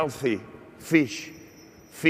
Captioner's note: bell ringing